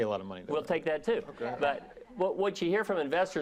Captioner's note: laughing